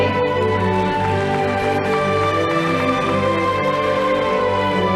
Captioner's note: audience applauding